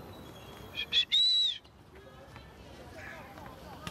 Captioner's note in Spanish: silbido